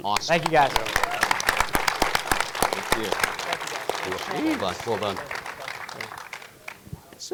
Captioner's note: audience clapping